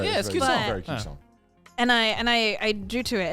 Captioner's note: men laughing